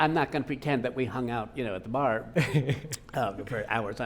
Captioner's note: laughing